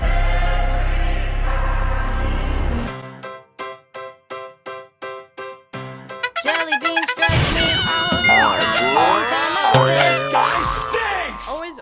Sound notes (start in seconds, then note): 7.6 cartoonish sound effects overlayed on top of each other